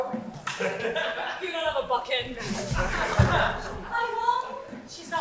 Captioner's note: audience laughs